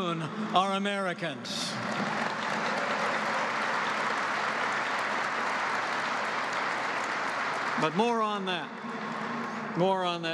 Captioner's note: applause